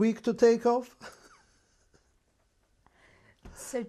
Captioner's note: laughs